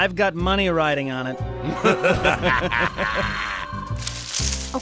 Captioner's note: laughter